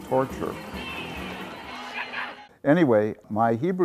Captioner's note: children taunting